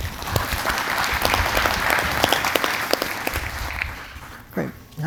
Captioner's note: applause